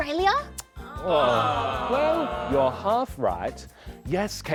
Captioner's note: audience sigh